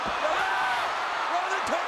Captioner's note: crowd cheers